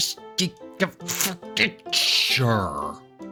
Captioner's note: frustrated grunting